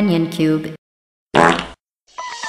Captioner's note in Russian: пердёж